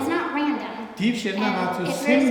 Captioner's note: speaking tibetan